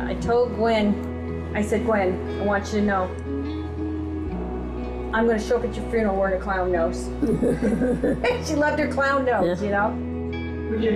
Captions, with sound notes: "I told Gwen, I said, 'Gwen, I want you to know, I'm gonna show up at your funeral wearing a clown nose!'" (laughs) "She loved her clown nose, you know?"